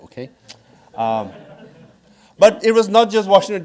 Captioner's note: audience laughing